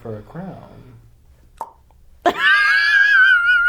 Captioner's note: tongue pop